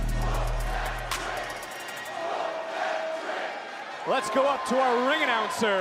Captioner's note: crowd "whoop that trick"